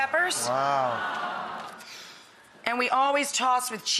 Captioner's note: audience exclaiming